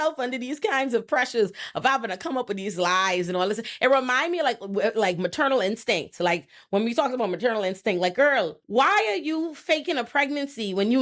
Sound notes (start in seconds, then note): none